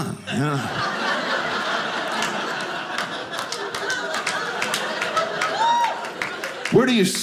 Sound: audience laughing

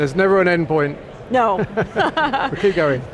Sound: laughing

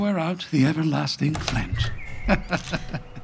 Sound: door opening; laughing

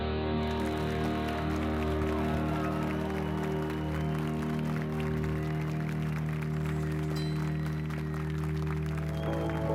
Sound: applause and cheers

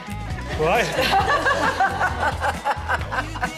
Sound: laugh

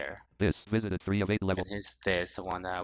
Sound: screen reader voice

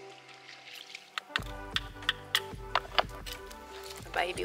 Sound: hammering

